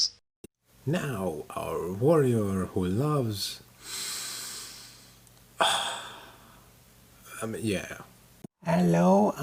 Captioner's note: sniff